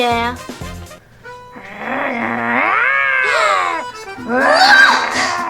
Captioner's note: growling